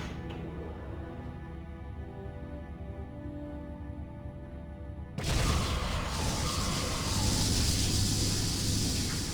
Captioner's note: laser blasts